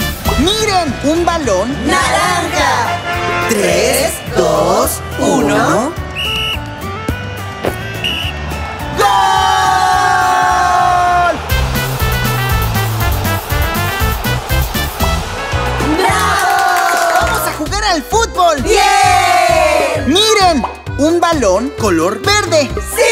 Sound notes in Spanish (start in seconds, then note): 0.0 Música Alegre; 6.0 Sonido de silbato; 11.4 Música Alegre